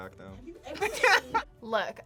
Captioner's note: both laugh